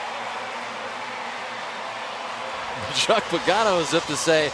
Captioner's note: cheering; pa announcement